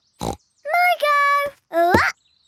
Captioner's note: snorts